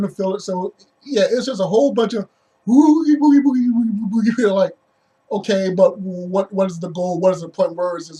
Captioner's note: spooky noise